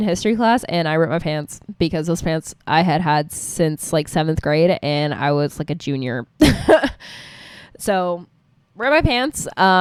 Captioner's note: laughs